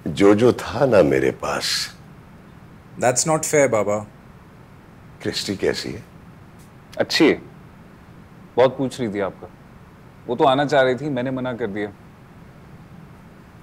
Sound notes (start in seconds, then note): none